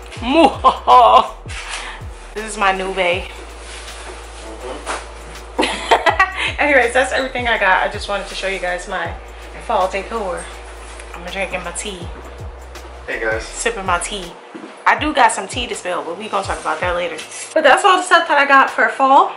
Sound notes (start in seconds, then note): 0.3 evil Laugh; 5.6 laugh